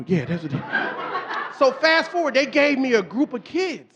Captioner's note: audience laughing